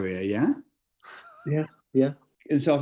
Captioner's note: sniggering